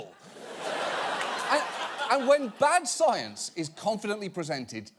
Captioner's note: audience laughing